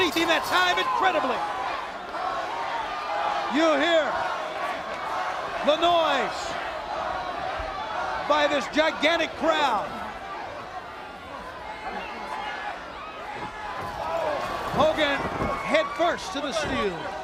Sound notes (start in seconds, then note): 10.9 crowd chatter